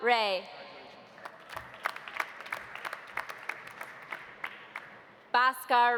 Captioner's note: audience applauding